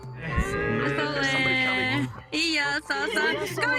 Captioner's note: speaking in Japanese